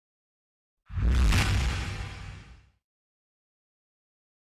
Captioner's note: logo whooshes